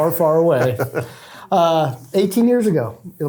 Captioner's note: chuckles